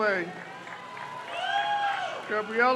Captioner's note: crowd cheers